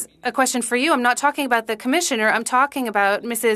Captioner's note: speaking French